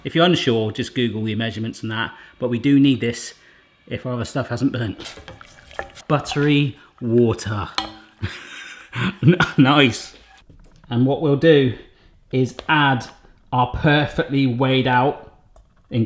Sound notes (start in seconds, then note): 8.2 he laughs